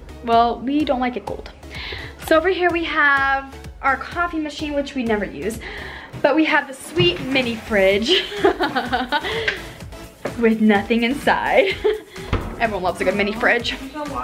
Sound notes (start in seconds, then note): 8.0 laughs